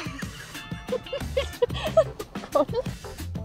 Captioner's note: she laughs